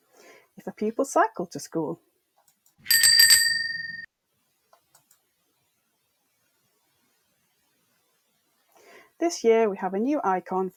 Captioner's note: click